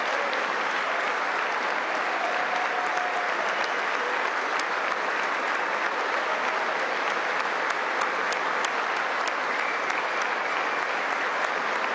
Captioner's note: applause